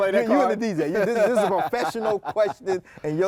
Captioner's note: both laugh